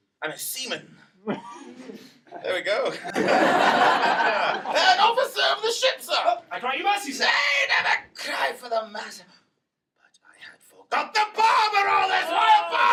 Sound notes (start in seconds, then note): 3.4 laughter